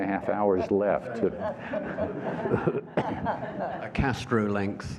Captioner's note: laughter